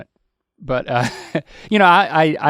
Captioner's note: Link chuckles